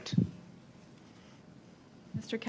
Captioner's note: speaking French